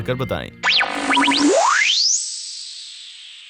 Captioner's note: electronic buzzing